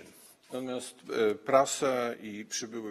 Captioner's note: speaking polish